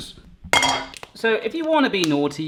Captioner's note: metal clanging